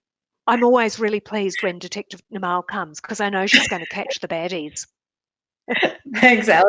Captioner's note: laughs